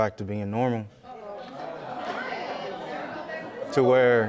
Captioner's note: audience chattering